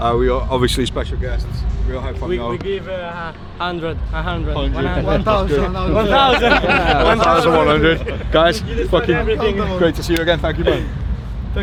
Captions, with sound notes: We are, obviously special guests. We all had fun though. - We give 100, 100, 100. - 1,000. - 1,000. (everyone laughing) - 1,100. Guys, fuck you. Great to see you again. Thank you, man.